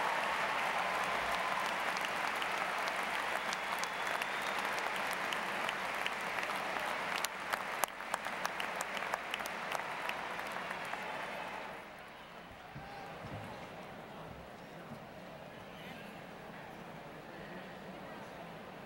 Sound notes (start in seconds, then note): 3.7 continued applause